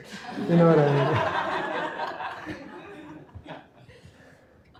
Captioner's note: laughter